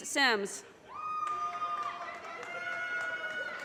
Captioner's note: audience cheers and applause